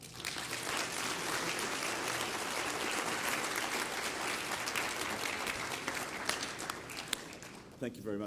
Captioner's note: applause